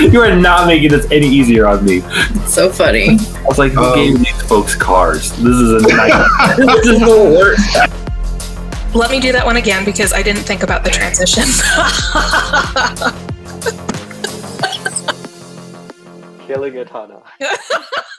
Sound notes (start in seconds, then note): 11.3 laughs; 17.3 laughs